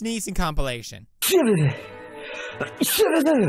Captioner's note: cry sneezes; cry sneezes again